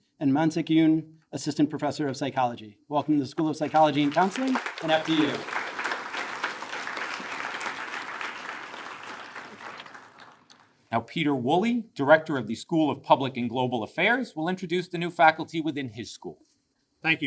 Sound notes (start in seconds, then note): 6.1 attendees applaud